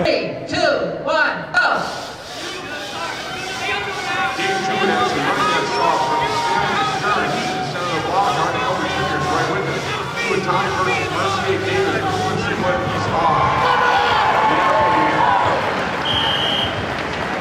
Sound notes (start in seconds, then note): 4.8 muffled announcer calls event; 14.1 crowd cheers